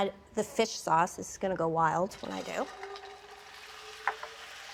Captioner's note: pan sizzling